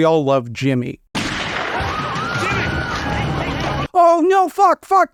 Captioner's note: gunshot